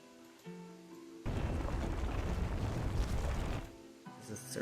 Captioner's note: gravel sounds